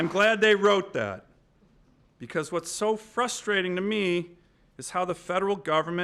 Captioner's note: applause